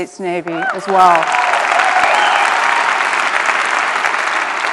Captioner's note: applause